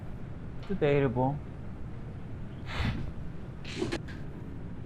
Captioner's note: chuckling